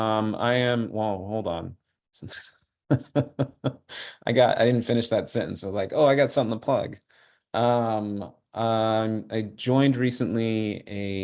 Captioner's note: laughter